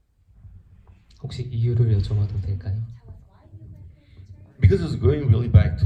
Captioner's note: speaks in foreign language